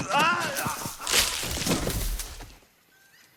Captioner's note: branches crack, thud